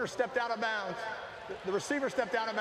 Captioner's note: cheers